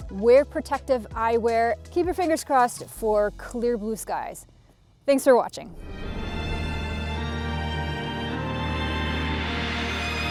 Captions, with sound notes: Keep your fingers crossed for clear blue skies. Thanks for watching. (transition whooshes) (uplifting music)